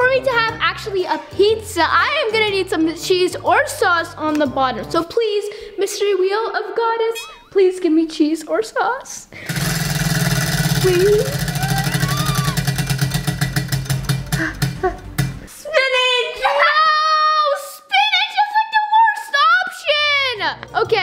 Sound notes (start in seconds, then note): 9.4 wheel clicking; 14.6 wheel clicks to a halt